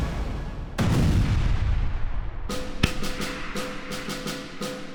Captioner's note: explosion bangs; marching drum music